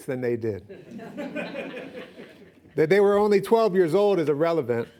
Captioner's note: laughing